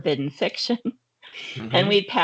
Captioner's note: chuckling